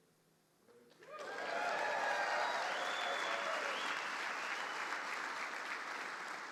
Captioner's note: audience cheering and applauding